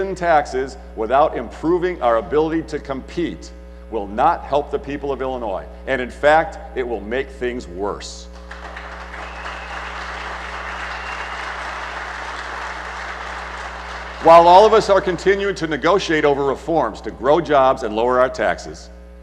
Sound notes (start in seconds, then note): 8.4 applause